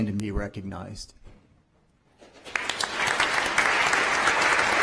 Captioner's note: applause